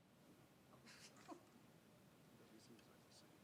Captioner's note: laughing